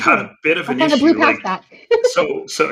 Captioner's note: chuckling